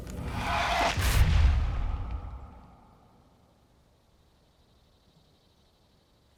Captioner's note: whooshing